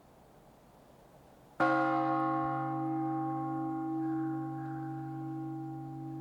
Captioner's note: bell gongs